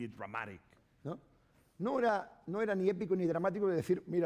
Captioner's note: speaking spanish